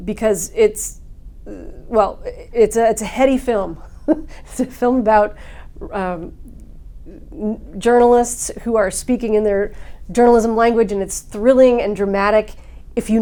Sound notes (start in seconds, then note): 3.8 giggles